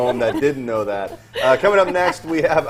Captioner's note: laughter